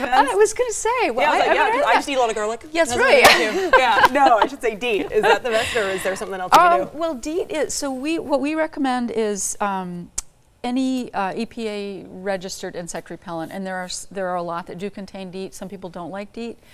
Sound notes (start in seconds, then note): 3.0 laughing